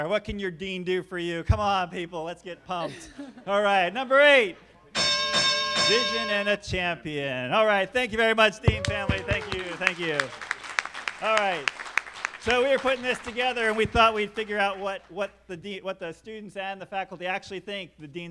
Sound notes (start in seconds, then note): 4.9 bell sounding; 10.5 applause